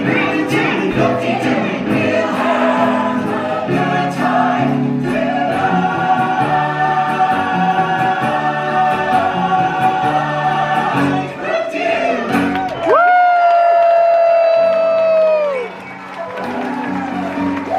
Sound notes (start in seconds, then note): 12.2 audience cheering and applauding